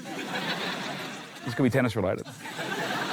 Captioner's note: laughter